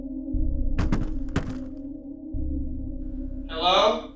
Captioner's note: floor banging